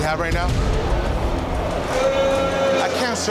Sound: crowd booing

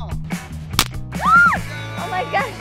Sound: firecracker pops

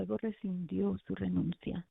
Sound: speaking spanish

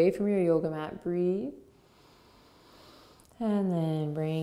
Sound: breathes deeply

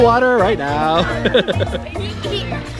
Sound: laughs loudly

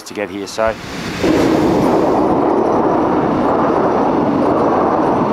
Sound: LOUD train overhead

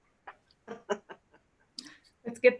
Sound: laughing

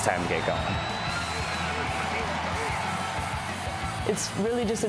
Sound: crowd cheering

